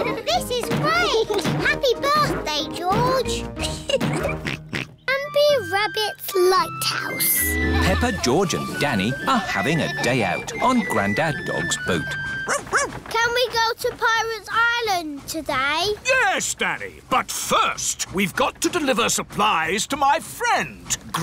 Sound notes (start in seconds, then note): 2.2 oinks; 3.6 laughs; 12.4 barks